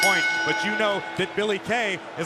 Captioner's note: bell ringing